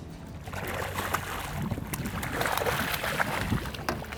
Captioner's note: water burbling